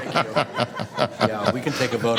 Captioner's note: laughter